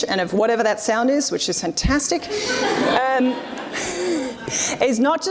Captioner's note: audience laughs